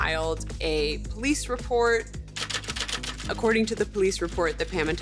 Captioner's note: typewriter keys clacking